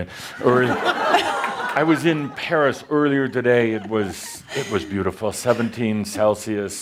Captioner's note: laughter